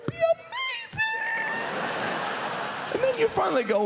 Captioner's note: audience laughs